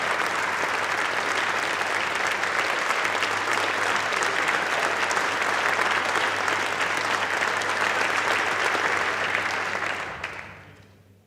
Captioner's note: applause